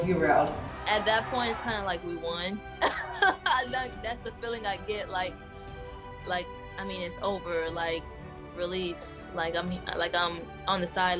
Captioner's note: laughs